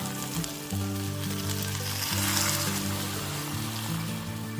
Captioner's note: hot water pouring sound